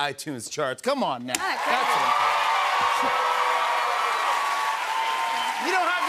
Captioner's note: cheers and applause